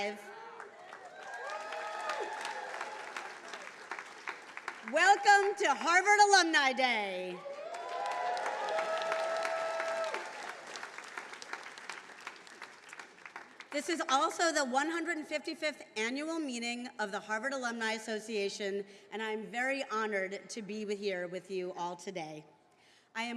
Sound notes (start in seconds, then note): 0.3 attendees cheering and applauding; 7.3 attendees cheering